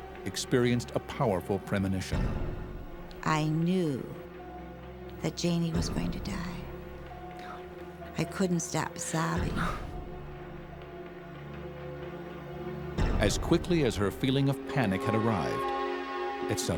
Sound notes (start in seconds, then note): 9.5 suspenseful music; 9.5 sobs